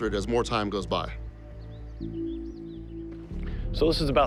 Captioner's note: birds chirping